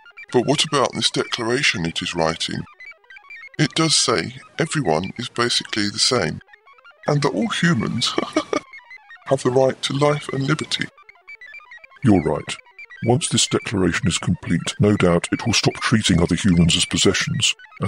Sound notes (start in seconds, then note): 7.1 laughs